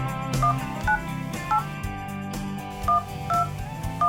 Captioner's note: beeping